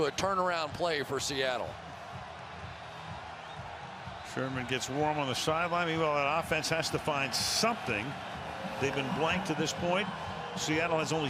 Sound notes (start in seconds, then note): 2.8 cheering